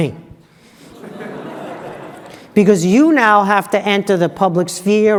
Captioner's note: laugh